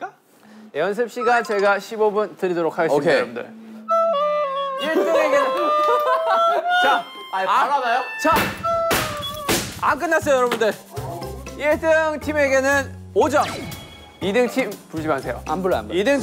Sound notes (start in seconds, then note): 3.9 shaking breath; 8.8 tak! Tak! Tak!